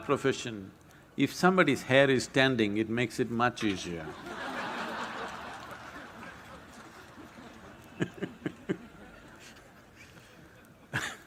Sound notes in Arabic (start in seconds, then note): 6.5 ضحك; 8.7 يضحك